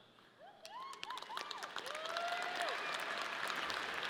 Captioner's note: audience cheering